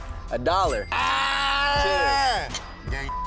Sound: beep

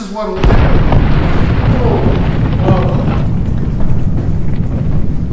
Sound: explosion blasting

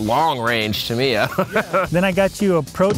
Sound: laughing

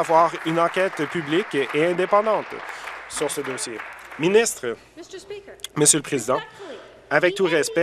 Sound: applause

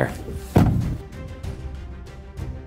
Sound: gentle upbeat music; door banging

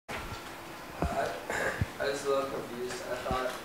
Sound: cough

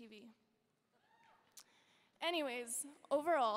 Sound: audience members cheering

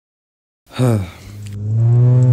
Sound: sighs

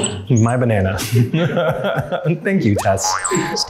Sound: laughter; producers laugh

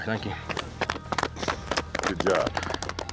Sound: everyone clapping

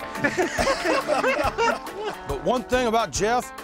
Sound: laughing

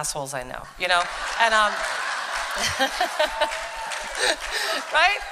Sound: laughter and applause

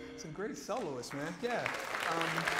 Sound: applause

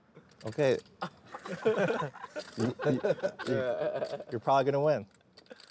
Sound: laughing

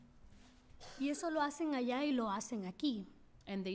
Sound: speaking spanish

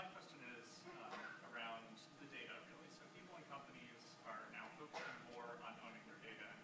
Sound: speaks off-mic

